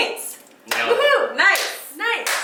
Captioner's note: claps